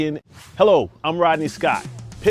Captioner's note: air swooshing